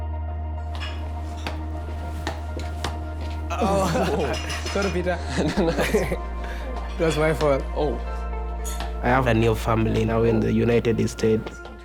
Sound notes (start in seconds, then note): 0.2 gentle music; 3.6 laughter